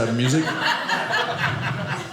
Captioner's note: audience laughing